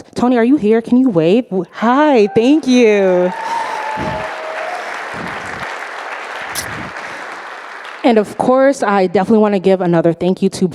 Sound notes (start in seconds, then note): 1.8 audience applauding